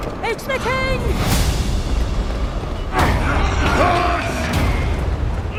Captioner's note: sound of struggle